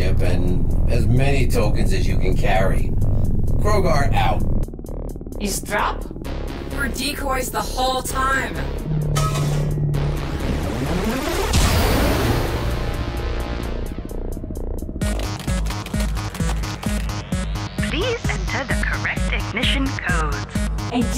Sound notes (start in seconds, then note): 9.0 metal clangs; 15.1 control board clacking; 15.2 suspenseful synth music